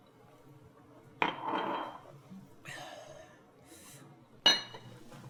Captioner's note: glass clanks